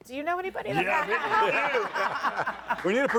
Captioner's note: audience laughing